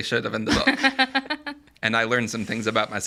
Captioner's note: laughing